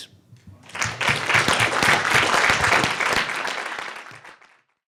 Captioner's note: audience claps